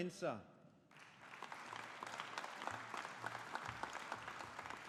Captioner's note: audience applauding